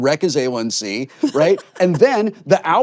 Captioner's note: laughs